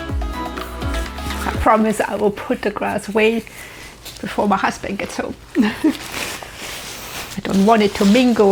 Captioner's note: laughs